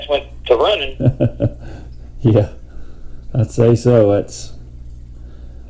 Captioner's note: chuckles